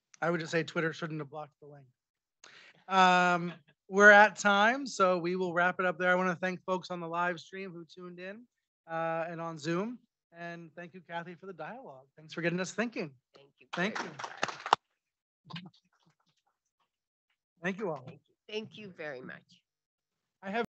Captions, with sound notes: - I would just say Twitter shouldn't have blocked the link. We're at time, so we will wrap it up there. I wanna thank folks on the live stream who tuned in, and on Zoom. And thank you Kathy for the dialogue. Thanks for getting us thinking. - Thank you very much Brian. (audience applauds) - Thank you all. - Thank you very much.